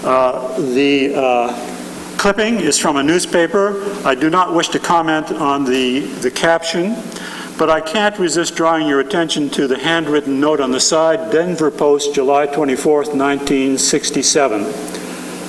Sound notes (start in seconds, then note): none